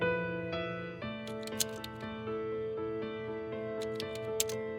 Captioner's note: keyboard keys clacking